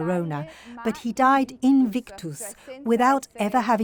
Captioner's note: speaking in foreign language